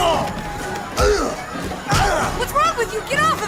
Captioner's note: fighting noises